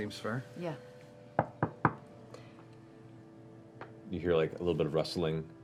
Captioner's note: knocking